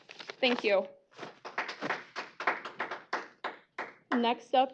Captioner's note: applause